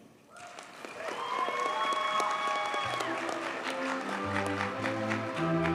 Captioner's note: audience cheers and applauds